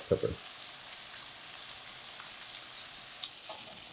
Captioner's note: sizzling